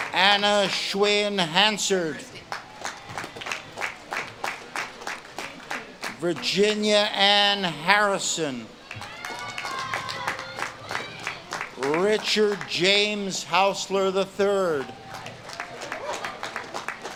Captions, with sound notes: Anna Schwinn Hanserth. (audience claps and cheers) Virginia Ann Harrison. (audience claps and cheers) Richard James Hausler III. (audience claps and cheers)